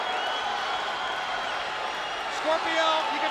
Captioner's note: spectators cheering